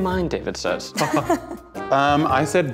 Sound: laughing

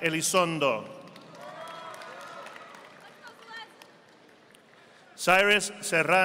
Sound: audience applauding

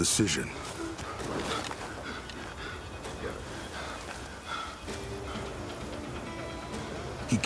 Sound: panting

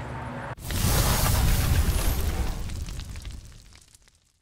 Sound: sound of fire

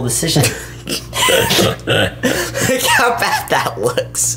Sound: laughs

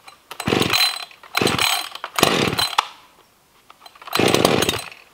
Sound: electric saw rumbling

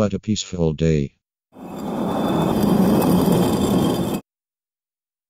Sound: concrete sliding sound

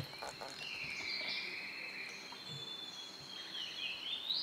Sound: birds tweeting

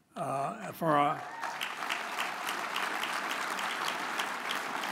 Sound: audience applauds

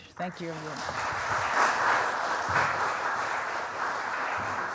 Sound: applause

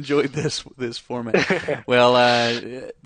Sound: laughs

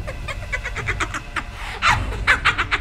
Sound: laughs; breathes; laughs louder

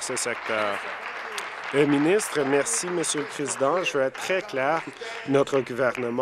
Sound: applause

